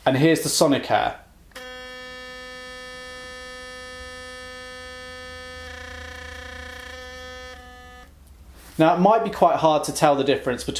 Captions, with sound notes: And here's the Sonicare. (motor buzzing) Now it might be quite hard to tell the difference